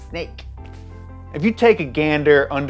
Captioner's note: hissing